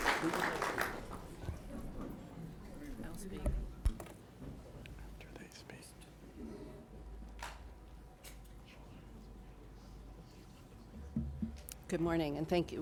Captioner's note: applause